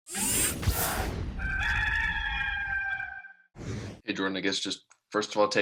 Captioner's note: rooster crowing